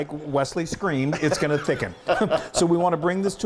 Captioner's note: laughter